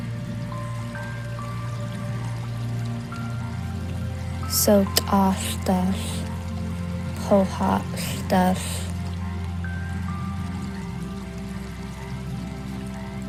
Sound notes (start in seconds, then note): 0.1 soft relaxing music continues; 4.6 narrator continues speaking in foreign language